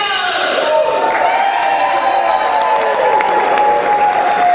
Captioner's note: cheering